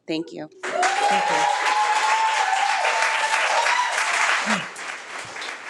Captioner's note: audience cheering